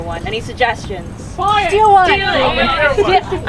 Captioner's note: excited answers